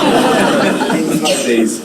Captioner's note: audience laughing